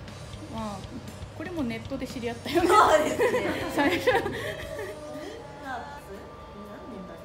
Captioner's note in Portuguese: risos